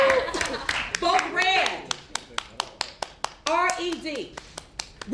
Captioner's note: applause